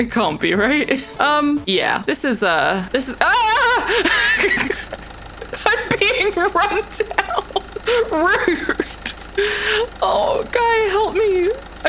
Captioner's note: laughs